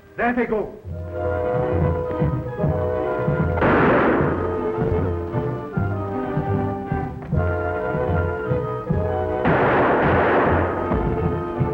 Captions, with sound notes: There they go. (guns firing) (dramatic music)